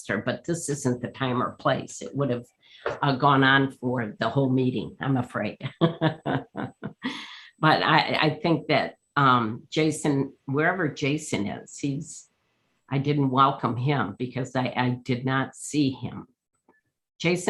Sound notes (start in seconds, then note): 5.8 laughs